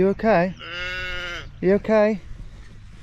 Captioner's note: sheep bleats